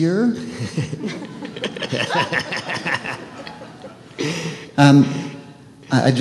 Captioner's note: laughter